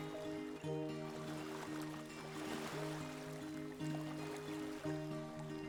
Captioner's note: waves crashing